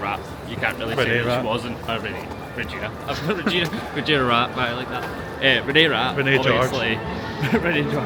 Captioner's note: laughs